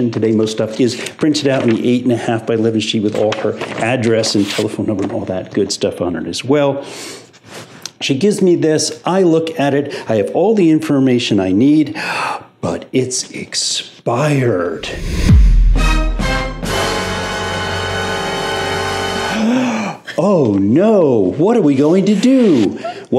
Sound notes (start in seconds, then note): 13.0 gasps; 14.8 sign whooshes; 19.4 gasps